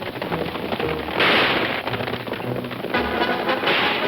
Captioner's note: gun fires; suspenseful orchestral music; guns firing